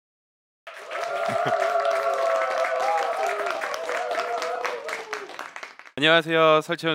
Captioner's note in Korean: 박수 소리